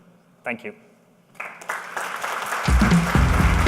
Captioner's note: applause